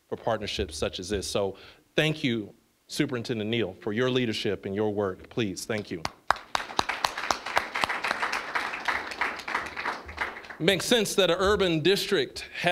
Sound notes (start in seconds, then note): 6.0 applause